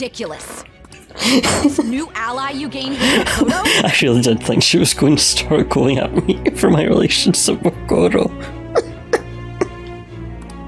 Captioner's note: laughs